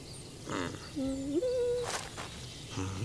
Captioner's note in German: er summt